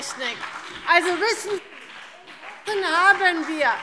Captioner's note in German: Vereinzelter Beifall BÜNDNIS 90/DIE GRÜNEN